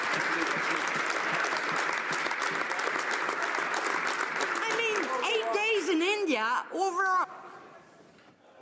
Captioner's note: some laughter; some Applause